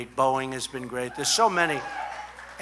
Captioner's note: applause